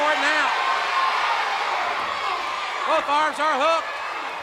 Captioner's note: crowd cheering